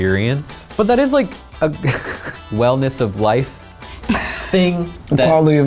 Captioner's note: laughs